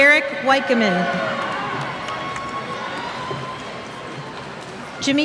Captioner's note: cheers